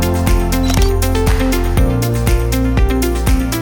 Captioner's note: camera clicks